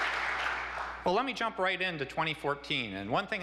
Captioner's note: applause